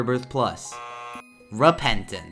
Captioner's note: error sounds